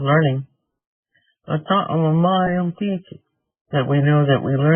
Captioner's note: speaking in Native language